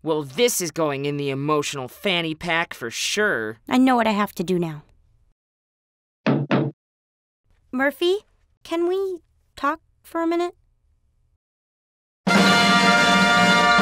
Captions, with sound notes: - Well this is going in the emotional fanny pack for sure. - I know what I have to do now. (knocking) - Murphy? Can we talk for a minute?